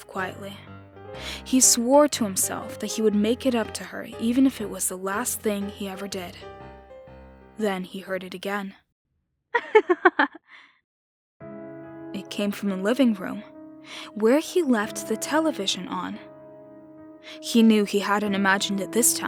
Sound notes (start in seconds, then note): 9.5 laughter